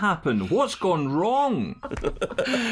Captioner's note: laughter